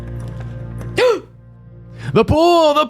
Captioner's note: gasp